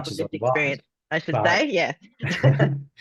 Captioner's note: laughs